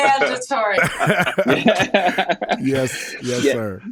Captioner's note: all laughing